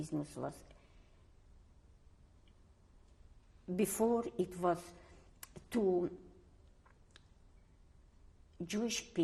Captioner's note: pauses for 3 seconds